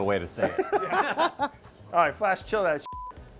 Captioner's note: laughing